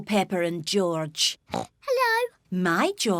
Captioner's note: oinks